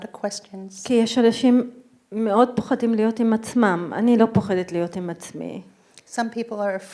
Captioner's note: speaking in foreign language